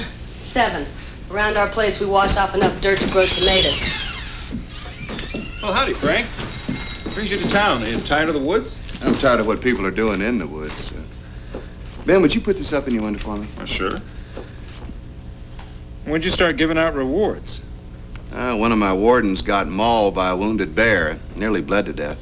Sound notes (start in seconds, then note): 4.4 door opens and closes